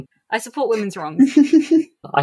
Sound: laughs

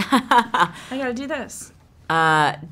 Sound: laughs

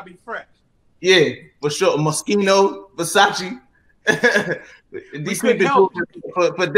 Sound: chuckles

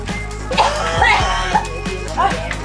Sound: choking

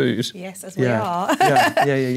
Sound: laugh

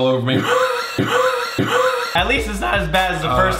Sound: laughing

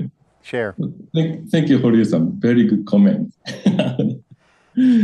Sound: laugh

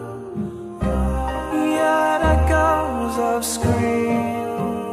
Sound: ahhhhhhh

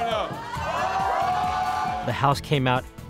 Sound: cheers

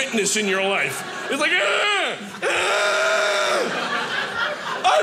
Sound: loudly grunting

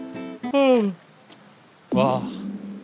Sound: yawning

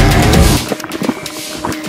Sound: oil being poured

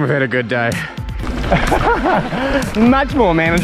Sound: laughs

